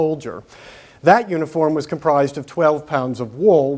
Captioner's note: none